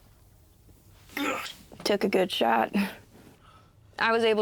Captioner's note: Chris groans